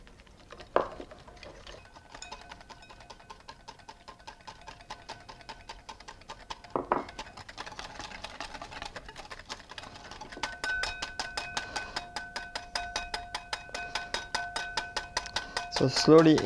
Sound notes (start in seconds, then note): 4.4 whisking sounds